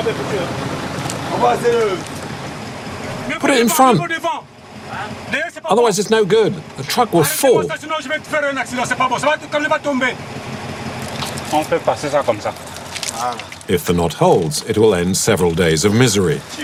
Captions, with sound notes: Put it in front, otherwise it's no good. The truck will fall. [foreign language] If the knot holds, it will end several days of misery.